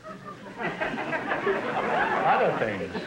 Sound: audience laughter

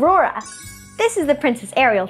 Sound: bells chiming

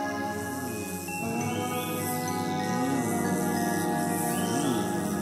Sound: bees buzzing

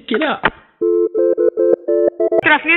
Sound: phone rings

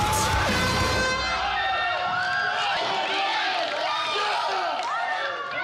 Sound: contestants shout; horn blows

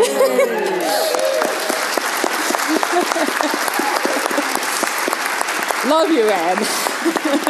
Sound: applause

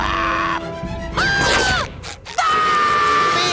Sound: screams

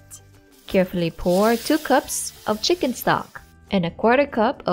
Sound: sizzling

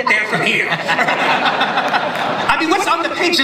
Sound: laughter

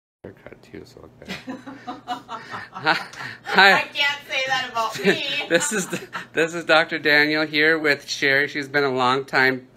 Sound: laughing

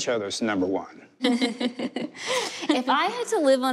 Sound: laughter

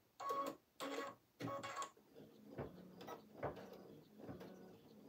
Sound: sewing machine running

